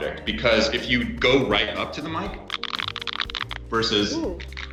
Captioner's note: quiet crackling; loud crackling